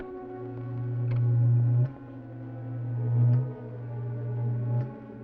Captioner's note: transmitter reverberating